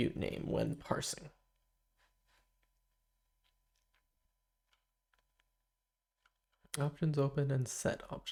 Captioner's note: silence